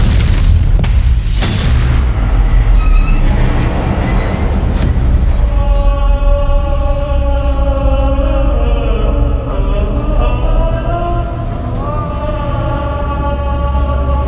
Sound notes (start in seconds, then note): 2.2 metal grinds ominously; 5.2 slow-motion screaming